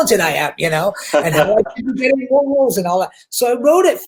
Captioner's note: laughs